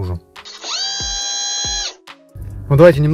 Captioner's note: servo sound